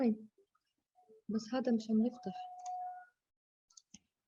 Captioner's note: non-english speech